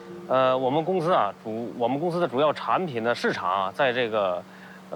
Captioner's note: speaking in foreign language